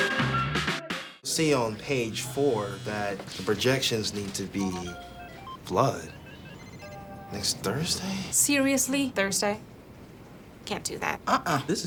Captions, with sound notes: to see on page four that the projections need to be... (phone alert) flood next Thursday. Seriously? Thursday can't do that. This is really inconvenient.